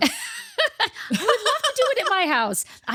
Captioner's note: laughing